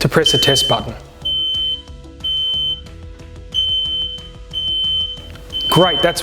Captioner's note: smoke alarm beeps loudly